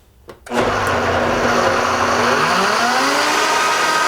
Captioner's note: whirring